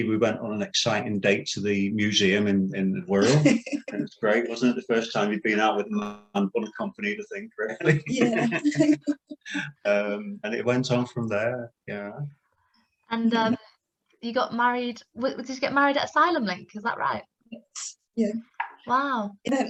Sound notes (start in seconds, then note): 10.4 laughing